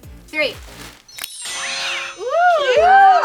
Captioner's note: shimmering bells, cat meow